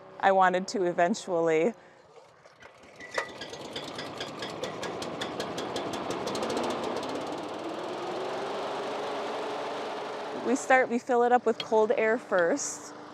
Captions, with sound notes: I wanted to eventually. (burner revving) (burner running) We start; we fill it up with cold air first.